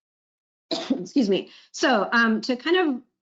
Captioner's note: coughs